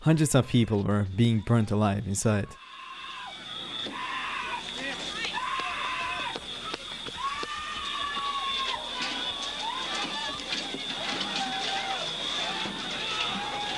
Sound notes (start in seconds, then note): 3.8 alarm blaring; 3.8 crowd screaming